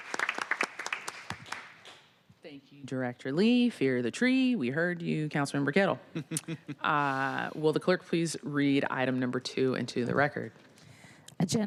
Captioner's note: applause